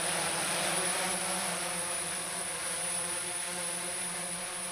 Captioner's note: drone whirring continues